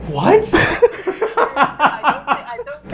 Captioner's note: both laughing